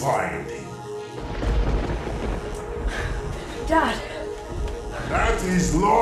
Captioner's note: thunder sounds